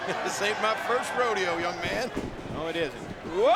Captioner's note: laughs